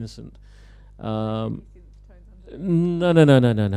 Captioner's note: background talking